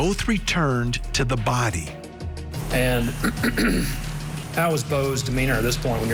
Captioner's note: clears Throat